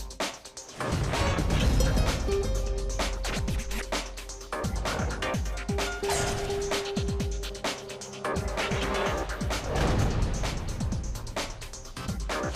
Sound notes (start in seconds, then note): 0.6 graphics whooshing; 0.6 upbeat electronic music